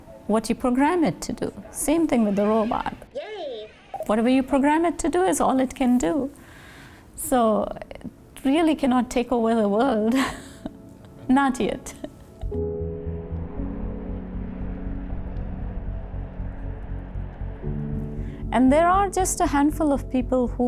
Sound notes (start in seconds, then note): 12.0 laughs; 14.1 gentle music